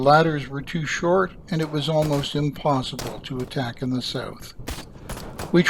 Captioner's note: musket fire